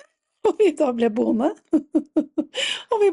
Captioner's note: laughter